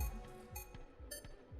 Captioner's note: electronic doot